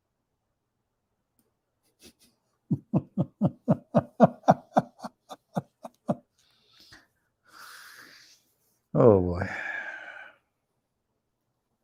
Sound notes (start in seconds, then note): 2.6 Ketawa